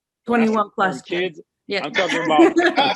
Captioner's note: laughs